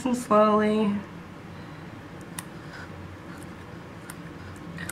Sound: scissor-clipping sounds

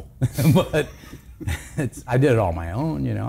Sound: laughs

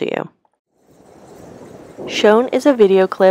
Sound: wind rustling through prairie grasses

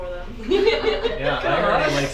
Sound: students laughing

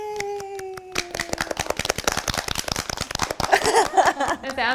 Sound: claps

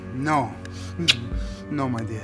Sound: kissing sound

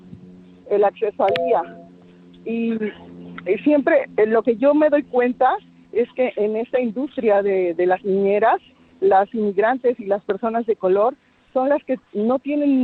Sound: speaking spanish

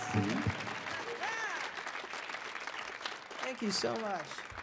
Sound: audience cheering

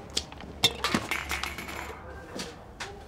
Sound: clanking

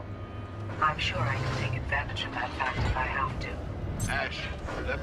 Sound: radio

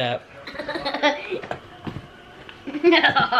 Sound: laughs

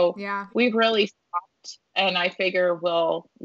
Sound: audio distorting

